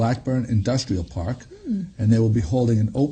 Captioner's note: hums